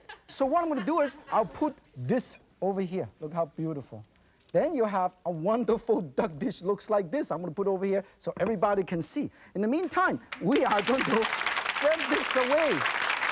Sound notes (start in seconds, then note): 10.2 applause